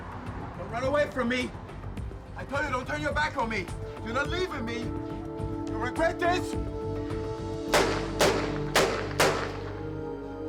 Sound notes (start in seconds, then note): 7.7 gunshots